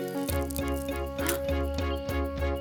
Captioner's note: cracking